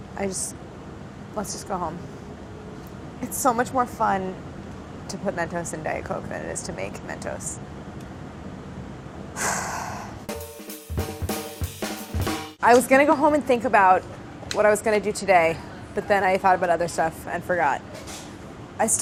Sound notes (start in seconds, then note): 9.3 sighs; 10.3 upbeat jazzy music